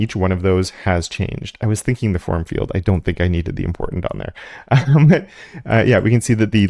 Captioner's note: laugh